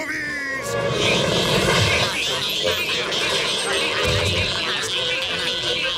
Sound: chattering

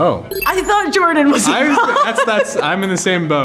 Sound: laughs

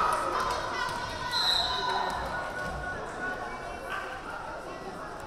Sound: whistle blaring

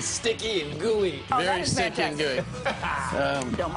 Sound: laughter

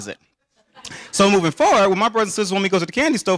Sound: audience laughing

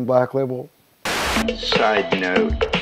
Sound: static hissing

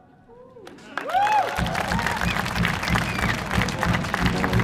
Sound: audience cheering; upbeat music

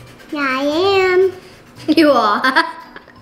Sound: slow-paced quirky music; laughter

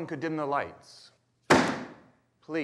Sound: book thudding

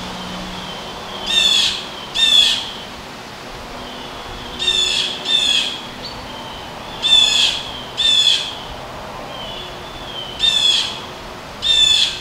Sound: bluejay calling

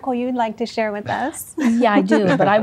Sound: laughter

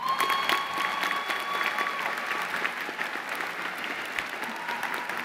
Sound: applause

